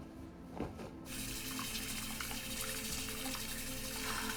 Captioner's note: water running